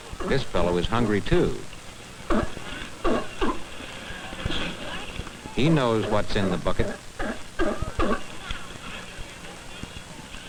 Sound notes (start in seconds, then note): 2.2 sea lion barking; 5.8 sea lion barking